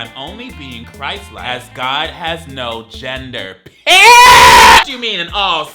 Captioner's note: screams